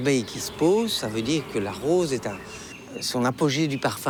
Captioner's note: bee buzzing